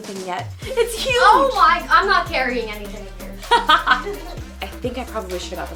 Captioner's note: both laugh